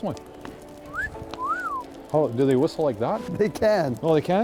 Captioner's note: whistles